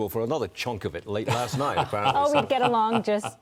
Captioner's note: laughter